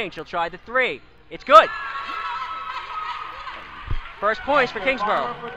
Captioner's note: crowd cheers